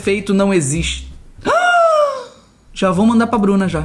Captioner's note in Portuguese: faz som de surpresa